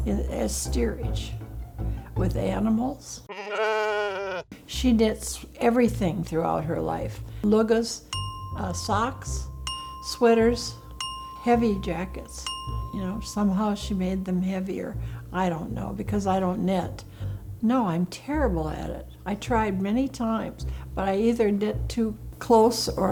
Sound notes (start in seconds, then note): 3.3 sheep bleating; 8.0 pinging